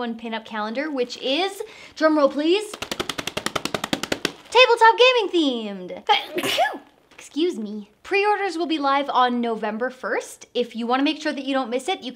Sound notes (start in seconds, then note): 6.1 sneezes